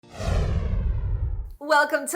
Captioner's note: whooshing